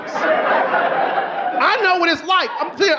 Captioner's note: audience laughing